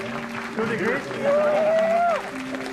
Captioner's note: crowd cheering